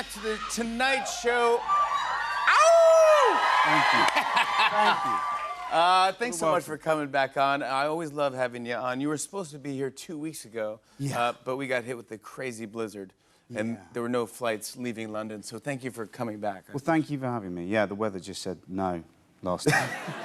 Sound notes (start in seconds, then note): 0.0 cheers and applause; 3.6 laughs